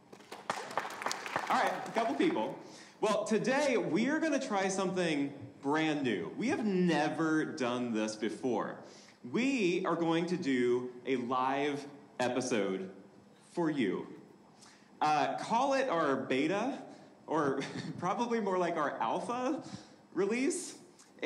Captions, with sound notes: (audience applauding) All right, a couple people. Well, today, we're gonna try something brand new. We have never done this before. We are going to do a live episode for you. Call it our beta or (chuckles) probably more like our alpha release,